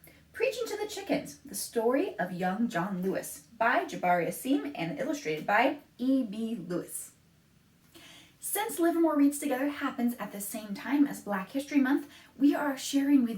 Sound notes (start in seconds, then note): none